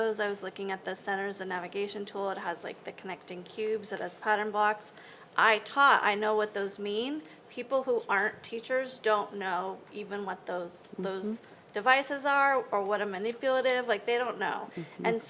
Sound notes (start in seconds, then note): none